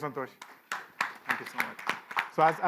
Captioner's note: applause